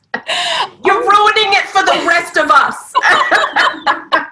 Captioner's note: laughter